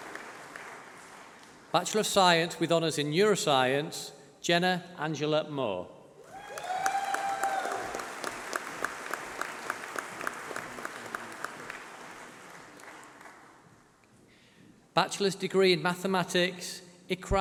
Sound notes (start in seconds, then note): 6.3 applause